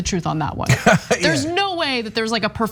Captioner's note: laugh